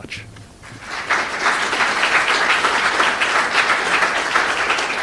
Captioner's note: audience applauds